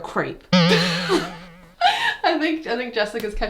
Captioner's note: spring bouncing; both laughing